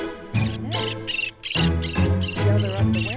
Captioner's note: bird chirps